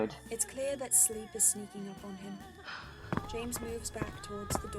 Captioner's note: James sighs